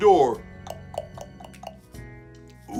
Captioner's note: knocking